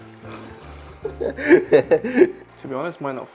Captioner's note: laughs